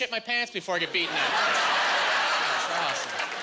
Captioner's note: laughing